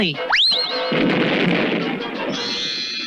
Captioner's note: explosion